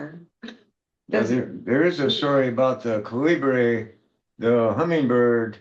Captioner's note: clears throat